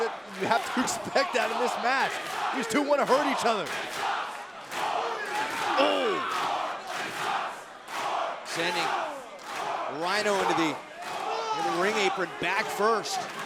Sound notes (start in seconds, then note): 3.8 crowd cheering